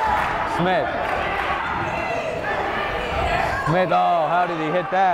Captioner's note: yelling